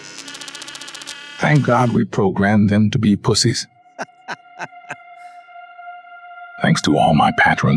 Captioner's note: man giggles